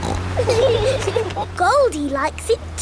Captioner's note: laughing